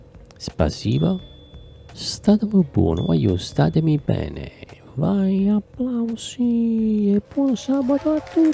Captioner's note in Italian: Applauso